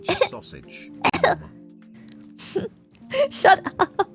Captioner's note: laughs